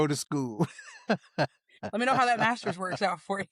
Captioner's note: laughing